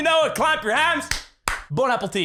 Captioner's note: clap Clap